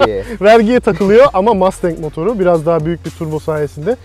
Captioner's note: laughs